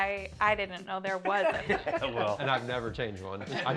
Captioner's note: laughter